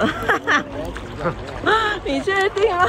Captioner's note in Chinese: 冷笑一聲